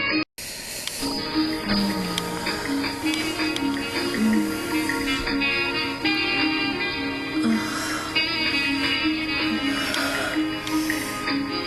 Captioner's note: moans in pleasure